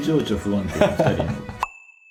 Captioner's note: laughs